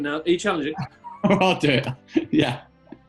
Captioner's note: laughing